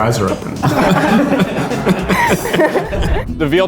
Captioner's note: all laugh